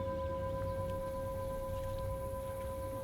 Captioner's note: crickets chirping